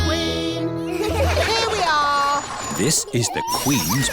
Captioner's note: all giggle